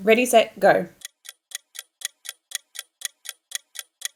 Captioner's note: clock ticking